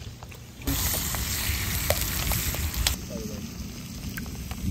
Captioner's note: bacon sizzles